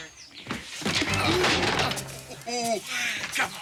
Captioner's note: chair crashes